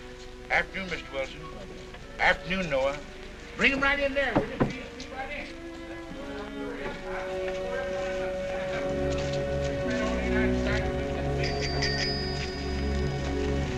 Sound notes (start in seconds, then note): 7.3 potter continues chattering